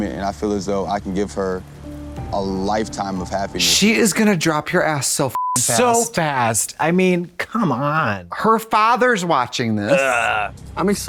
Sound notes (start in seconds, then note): 5.4 beep